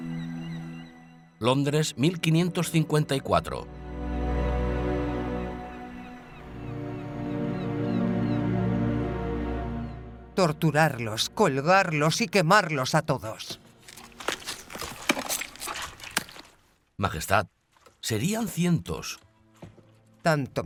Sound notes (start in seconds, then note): 0.7 dramatic music; 0.7 gulls squawk